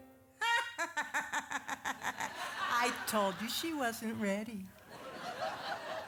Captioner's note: laughing